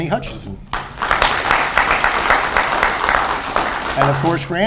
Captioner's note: audience applauds